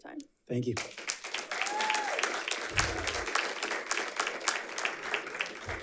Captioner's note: audience applauds